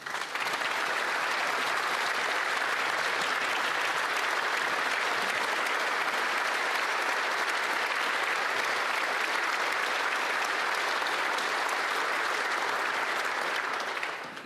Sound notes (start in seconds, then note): 3.0 some Applause